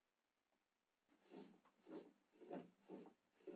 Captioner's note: glass scraping